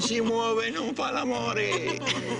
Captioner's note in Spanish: Habla en idioma extranjero